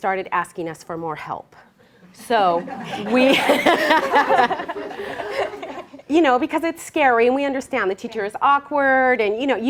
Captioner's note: laughter